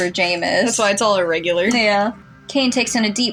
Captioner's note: chuckle